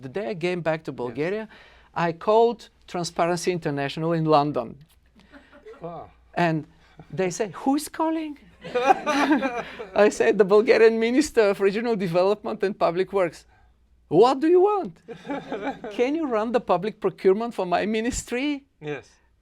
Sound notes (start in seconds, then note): 8.6 laughter